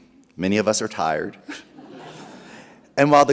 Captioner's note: chuckles